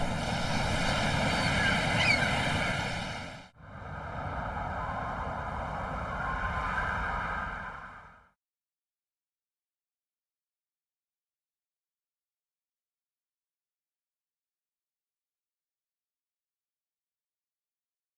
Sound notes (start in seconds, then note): 0.0 waves flowing; 4.0 wind blowing